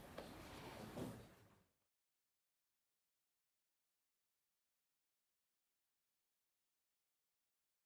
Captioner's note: silence